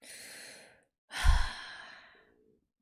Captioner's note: sighs